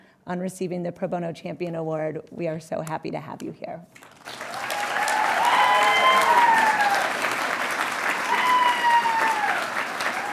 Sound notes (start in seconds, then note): 4.0 audience applauding and cheering